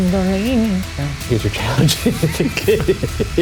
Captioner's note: laughs; both laughing